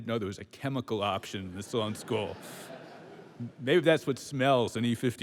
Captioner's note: laughter